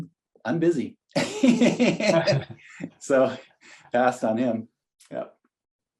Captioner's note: laughs